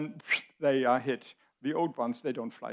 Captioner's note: Dr. Habeck whistles